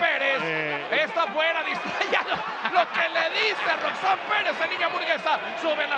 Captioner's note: laugh